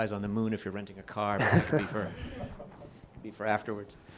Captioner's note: chuckling